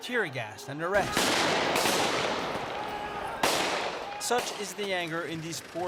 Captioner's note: gunfire